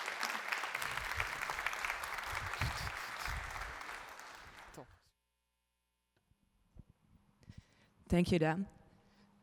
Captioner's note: applause